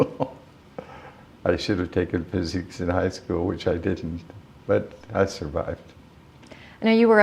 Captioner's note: chuckle